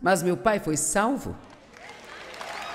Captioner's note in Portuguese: plateia aplaudindo